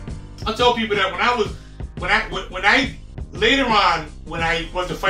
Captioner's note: stutters